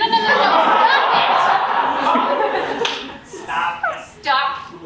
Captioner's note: audience laughs